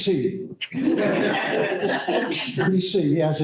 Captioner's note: laughter